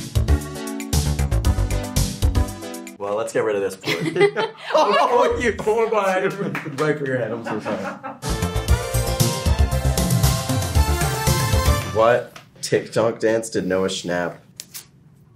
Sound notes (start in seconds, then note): 0.0 upbeat music; 3.8 Gaten and Sadie laughing; 8.2 upbeat music